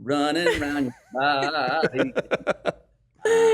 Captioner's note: laughs